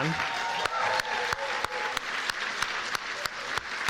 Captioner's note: cheers and applause